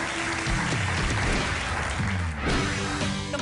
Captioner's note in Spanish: Aplausos